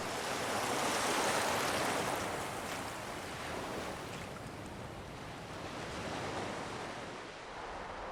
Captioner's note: ocean waves